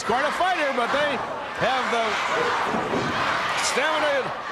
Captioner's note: crowd cheering